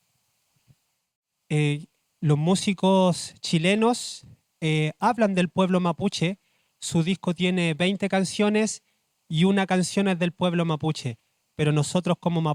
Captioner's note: speaking Spanish